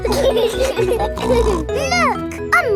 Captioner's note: laughing